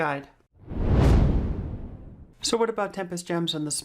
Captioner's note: air whooshing